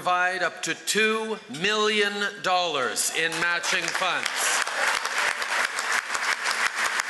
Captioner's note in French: Acclamations et applaudissements